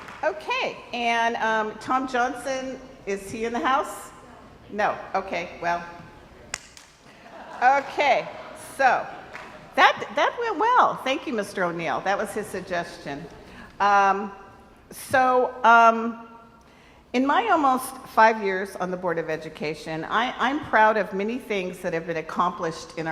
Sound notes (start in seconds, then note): 0.0 crowd applauds; 6.7 applauds